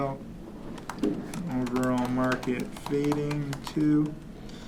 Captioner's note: typing